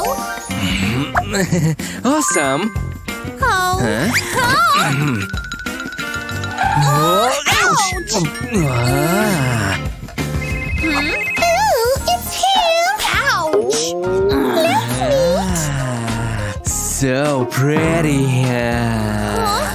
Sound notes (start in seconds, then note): 4.3 groans; 10.8 making happy sounds